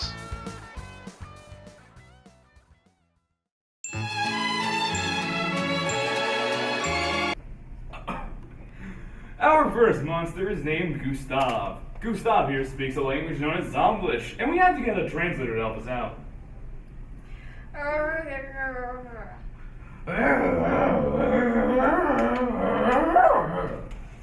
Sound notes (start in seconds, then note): 0.1 music fades out; 3.9 cheery violin music plays; 7.9 host coughs; 17.6 Translator speaks in Zomblish; 19.6 Gustav speaks in Zomblish